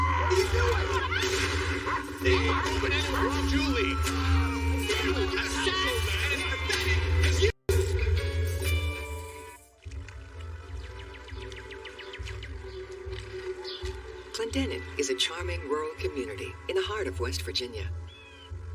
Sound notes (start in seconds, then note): 0.0 dramatic music playing; 2.8 gunshot; 5.5 man screaming; 12.7 birdshirping